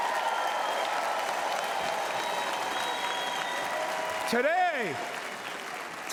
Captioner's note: applause